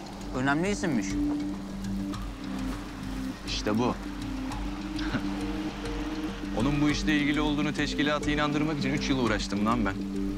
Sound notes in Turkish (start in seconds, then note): 5.0 Gülme sesi